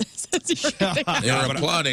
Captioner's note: laughing